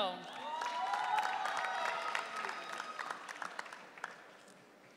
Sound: audience cheering

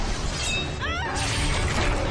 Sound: scream

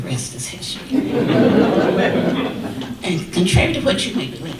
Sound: audience laughter

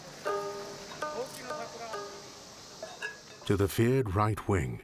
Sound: people chattering

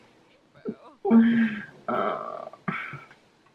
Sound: grumbling

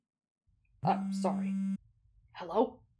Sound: phone vibrating

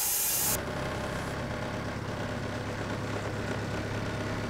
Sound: forklift engine roaring

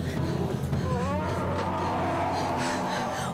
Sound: laughing; god awful scream

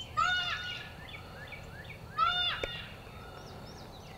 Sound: deer call

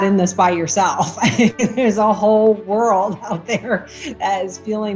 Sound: laughs

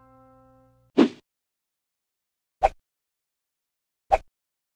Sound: page whoosh

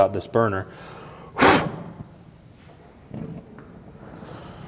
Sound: blowing

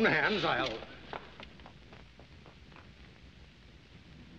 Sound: running Footsteps

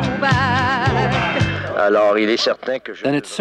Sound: men shouting in foreign language; speaking in foreign language

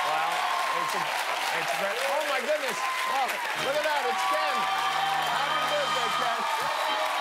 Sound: cheers and applause

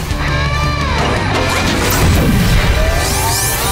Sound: turbo turning on

